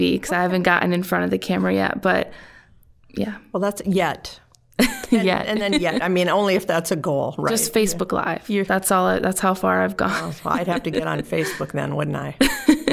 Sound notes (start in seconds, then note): 4.8 laughing; 10.1 laughing